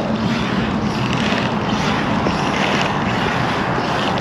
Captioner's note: wheels creaking